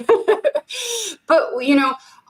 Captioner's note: laughing